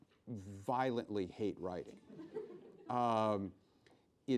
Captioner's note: laughing